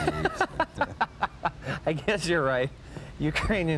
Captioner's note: laughing